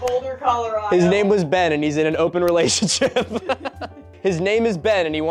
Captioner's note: laughing